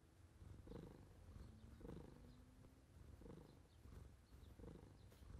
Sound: Jazzy purrs

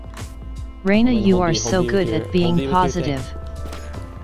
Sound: text to speech

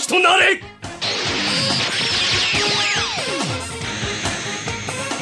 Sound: SFX: sound of magic

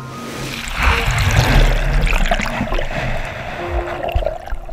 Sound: water splashing

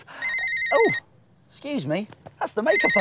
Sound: phone rings

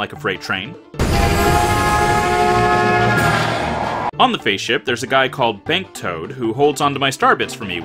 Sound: train whistle

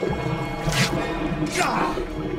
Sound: snick

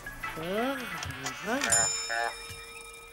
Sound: bell chimes; croaking

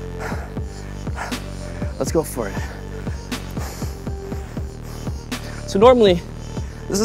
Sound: breathes heavily

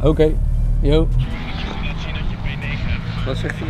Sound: voice on the phone

